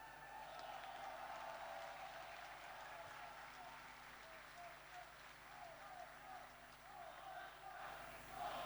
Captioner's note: applause